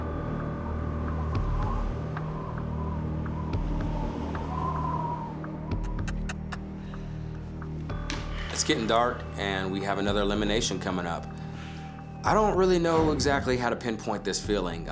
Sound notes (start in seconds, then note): 0.3 suspense music; 1.7 wind howling; 5.8 kissing sound